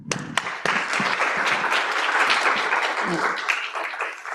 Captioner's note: applause